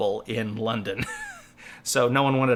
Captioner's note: laughs